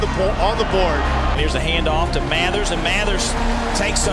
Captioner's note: voiceover